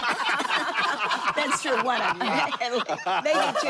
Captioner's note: laughter